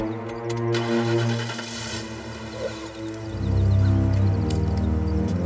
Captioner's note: engine starting; ominous music